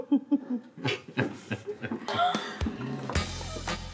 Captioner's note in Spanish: Risas